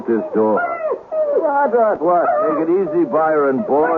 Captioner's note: crying